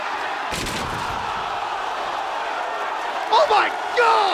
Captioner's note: table crashing